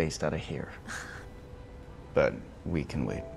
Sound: chuckles

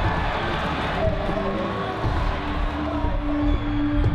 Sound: crowd cheering

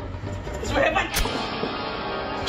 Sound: sound of stabbing

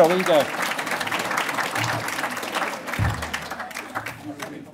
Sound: audience clapping

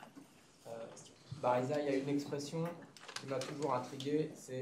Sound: speaking french

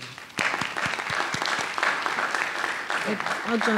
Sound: audience applauding

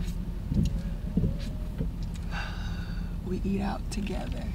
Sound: sighs

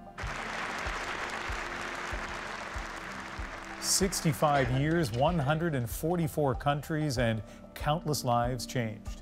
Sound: applause

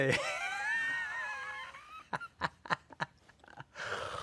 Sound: laughing

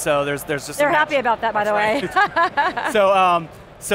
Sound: laughs

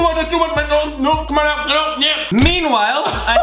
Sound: sputtering words

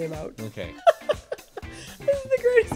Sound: laughs

